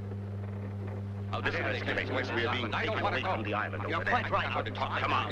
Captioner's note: all murmuring